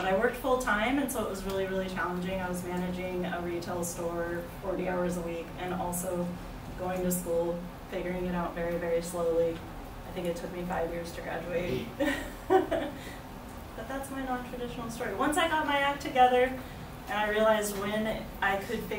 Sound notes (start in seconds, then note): 11.8 laughs